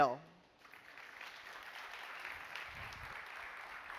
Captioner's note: applause